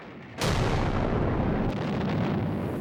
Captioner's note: boom